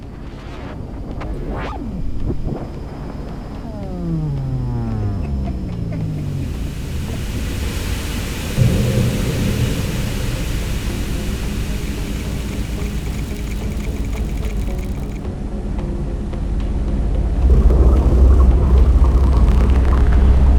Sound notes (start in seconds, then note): 1.7 electronic noises; 5.1 laughing Jan; 8.8 very loud machine sounds